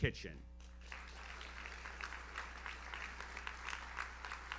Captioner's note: audience applauds